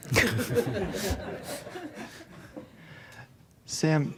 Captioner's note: laughter